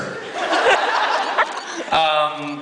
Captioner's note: crowd laughs